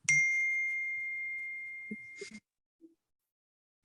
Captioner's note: bell ringing